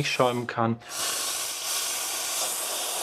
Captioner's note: hissing